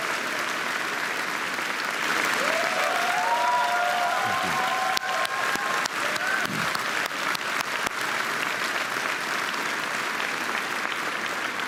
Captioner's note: applause